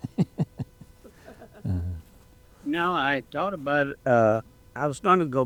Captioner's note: laughing